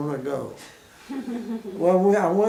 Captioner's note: woman chuckles